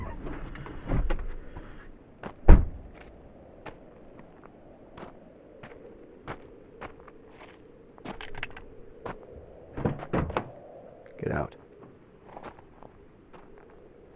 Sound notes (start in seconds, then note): 2.4 door slams; 3.7 footsteps crunch; 8.2 gun clicks; 9.7 door wrenches open